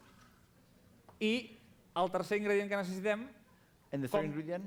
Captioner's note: non-english speech